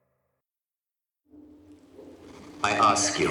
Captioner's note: loudspeaker crackles